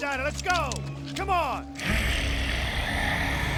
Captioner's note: growling